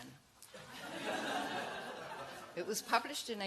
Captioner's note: laughter